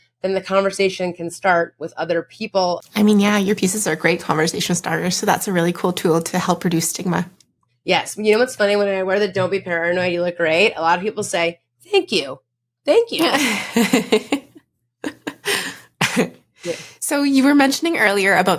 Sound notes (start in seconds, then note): 15.0 laughing